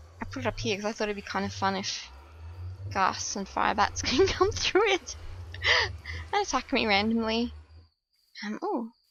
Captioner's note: laughs